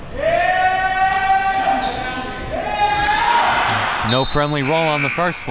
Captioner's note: audience yelling